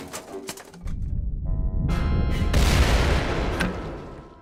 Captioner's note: deep rumble and explosion